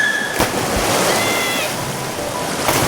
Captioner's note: Lily screaming; water splashing